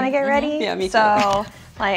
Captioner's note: laughs